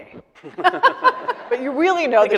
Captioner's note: laughing